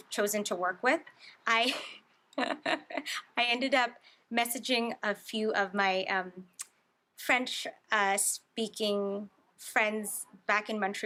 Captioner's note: laughs